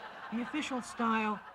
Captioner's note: laughter